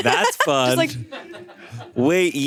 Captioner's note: crew laughing